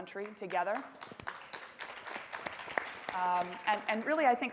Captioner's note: audience applauding